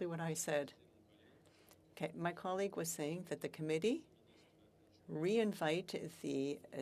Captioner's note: speaking French